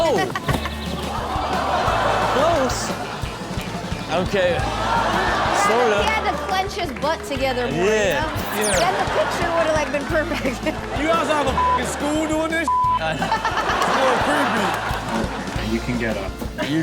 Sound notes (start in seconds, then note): 0.2 Chanel giggles; 12.6 beep; 13.0 crowd laughing